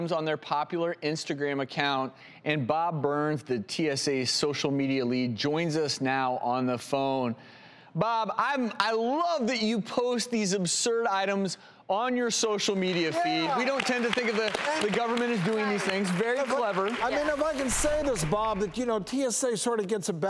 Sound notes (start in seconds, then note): 12.8 applause